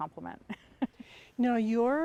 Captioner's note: chuckles